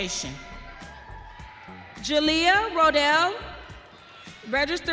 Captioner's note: audience cheering